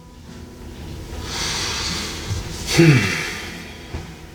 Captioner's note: deep breath